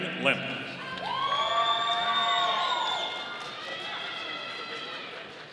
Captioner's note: audience applauding